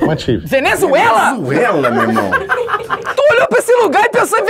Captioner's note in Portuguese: risadas